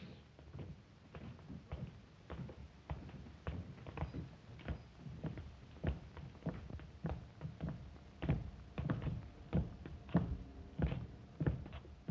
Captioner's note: Zaroff speaks Russian; footsteps down stairs